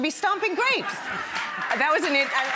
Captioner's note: audience cheers; laughing